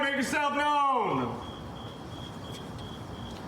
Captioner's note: crickets chirping